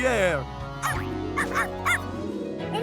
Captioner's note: barking